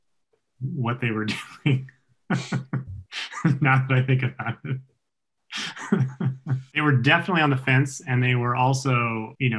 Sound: laughs

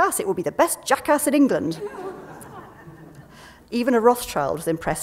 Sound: laughter

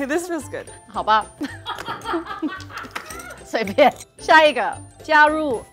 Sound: speaking in mandarin

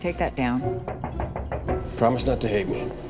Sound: knocking on glass

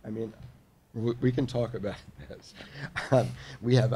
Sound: laughs

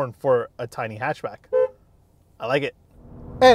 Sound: honking

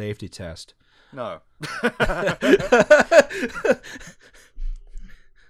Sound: laughter

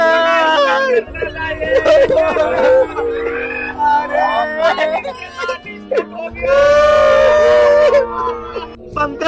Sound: crying

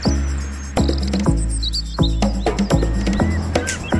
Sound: birds sing

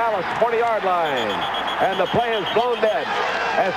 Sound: whistle blows

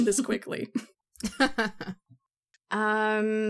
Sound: laughs

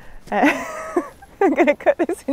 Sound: laughs

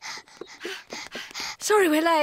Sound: panting

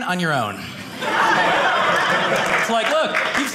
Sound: audience laughing

